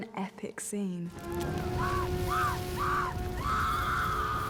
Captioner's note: screaming